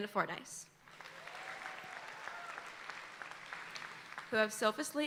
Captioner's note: audience applauding